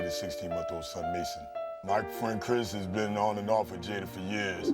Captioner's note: none